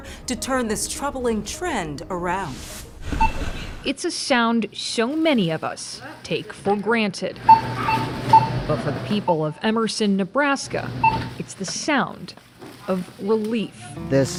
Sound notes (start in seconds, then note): 3.1 electronic beep; 7.4 electronic beeps